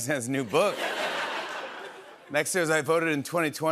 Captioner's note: laughter